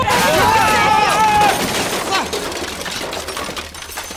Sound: rattle, screams

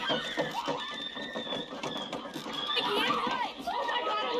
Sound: screams

